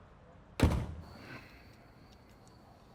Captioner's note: door closes